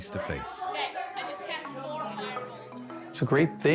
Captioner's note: children chattering